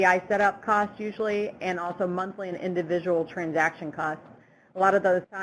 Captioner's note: none